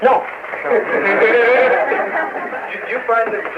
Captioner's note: laughter